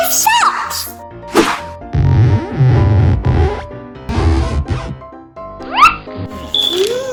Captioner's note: swooshing; rubbery tugging; Googoo Gaga humming